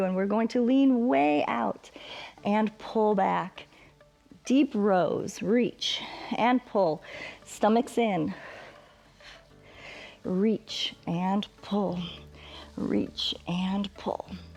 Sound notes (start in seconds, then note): 8.3 exhales